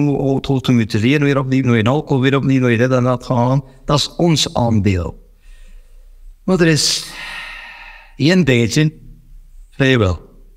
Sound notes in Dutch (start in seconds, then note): 6.9 diepe zucht